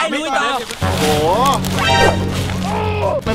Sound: leaves moving

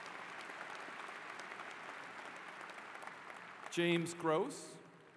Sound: applause

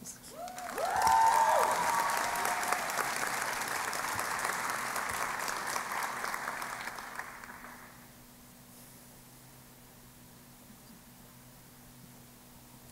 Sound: cheering and Applause

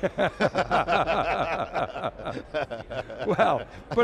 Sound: both laughing

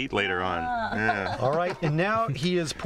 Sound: laughter

